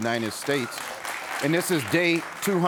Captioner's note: audience applauds